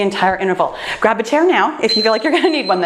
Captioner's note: timer beeps